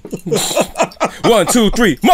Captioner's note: laughter